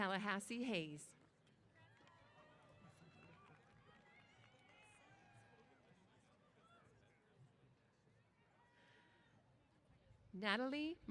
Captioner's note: cheers